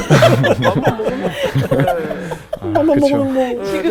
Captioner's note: laughing